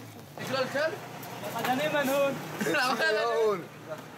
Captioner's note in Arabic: الصوت المنطوق باللغة العربية